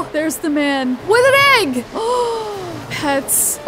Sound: gasps

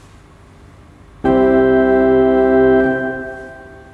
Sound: static; long ding sound; static

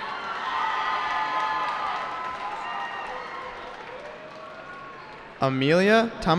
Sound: cheering

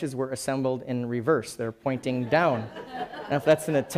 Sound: laughing

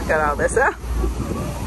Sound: laughing

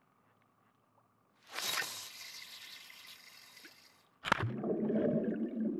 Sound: sound of fishing line being cast

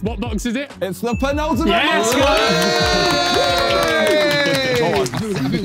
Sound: everyone cheering

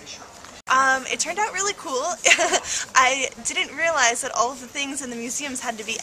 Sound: laugh

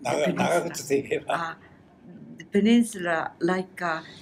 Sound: foreign language

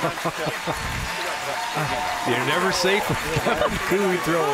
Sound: laughter

